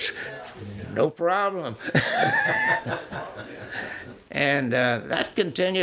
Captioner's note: laughs